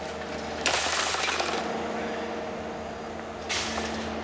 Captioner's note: plastic and metal sounds